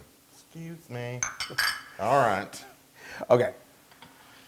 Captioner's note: laugh